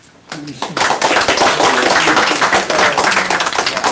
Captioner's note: applause